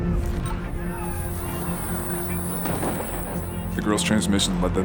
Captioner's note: dust ringing